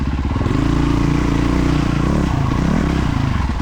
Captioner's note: engine revving